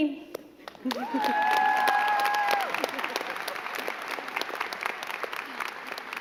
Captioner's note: crowd cheering and clapping